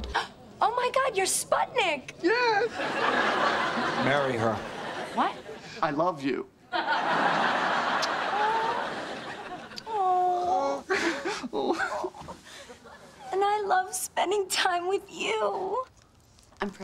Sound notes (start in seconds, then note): 0.4 gasp; 2.6 audience laughing; 8.6 Mona cooing